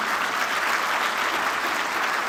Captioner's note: applause